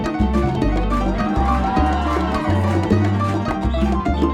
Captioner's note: audience cheering